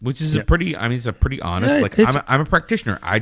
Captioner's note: uh